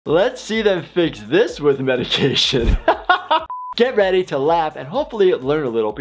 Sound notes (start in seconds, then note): 2.0 laughs; 3.5 buzzer beeps